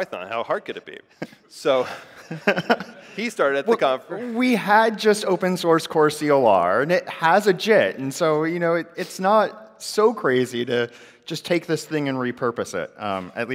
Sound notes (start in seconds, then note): 1.7 laughter